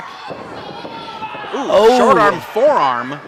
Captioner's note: audience shouts